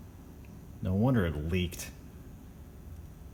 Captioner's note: scoffs